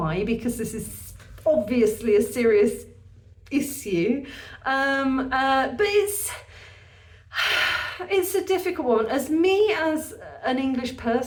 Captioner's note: deep sigh